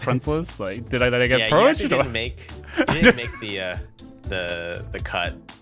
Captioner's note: laughter